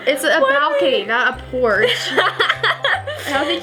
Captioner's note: laughs